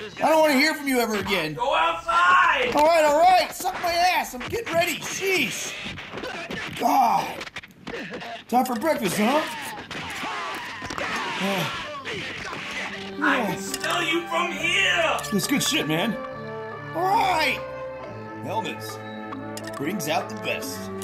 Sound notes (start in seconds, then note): 5.8 fighting sound effects; 8.9 fighting sound effects; 16.4 somber music; 20.8 somber music